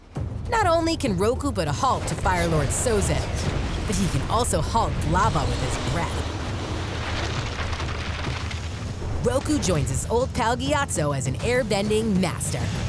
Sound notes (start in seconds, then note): none